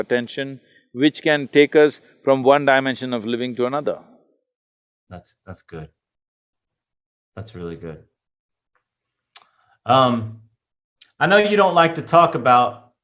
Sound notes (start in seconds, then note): none